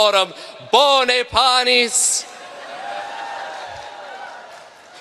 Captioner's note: cheering